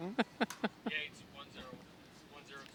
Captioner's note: laughing